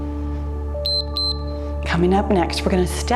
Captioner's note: timer beeps